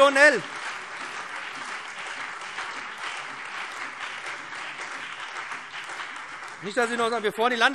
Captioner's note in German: Beifall BÜNDNIS 90/DIE GRÜNEN, CDU und Freie Demokraten